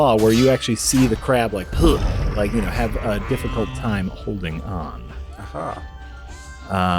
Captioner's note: grunts